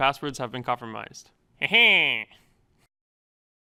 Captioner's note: snicker